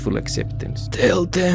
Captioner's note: final whisper